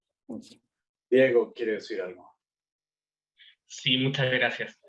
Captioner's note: speaking Spanish